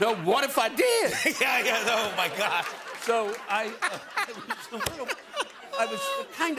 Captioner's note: laughter